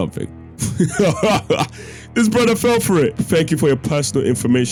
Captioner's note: laughs